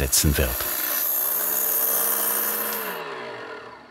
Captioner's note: whirring